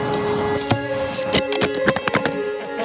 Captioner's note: arrow thumps and phone clatters; laughter